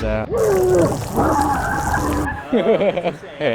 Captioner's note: person grunting; mixer whirring; chuckling